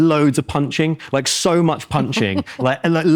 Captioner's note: laughs